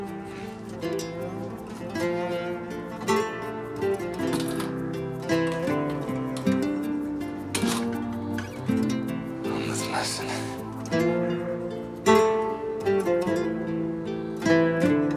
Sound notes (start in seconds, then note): 0.1 emotional music continues; 4.1 door opens and closes